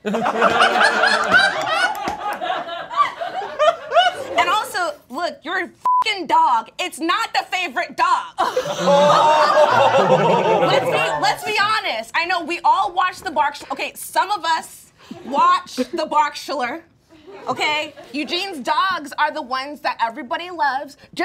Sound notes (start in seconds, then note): 0.0 all laughing; 8.6 all exclaiming